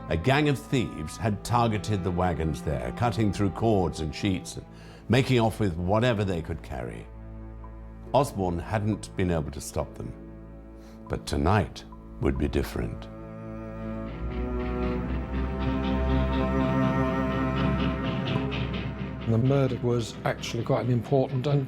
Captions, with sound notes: a gang of thieves had targeted the wagons there, cutting through cords and sheets, and making off with whatever they could carry. Osborne hadn't been able to stop them, but tonight would be different. (mournful music) (train chugging) - The murder was actually quite an important